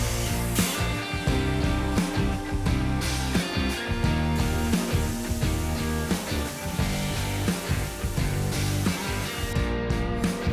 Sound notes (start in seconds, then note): 4.9 water splashing